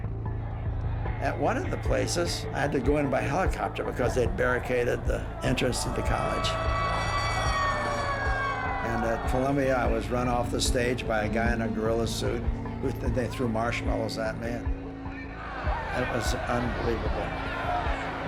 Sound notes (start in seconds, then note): 6.6 siren blaring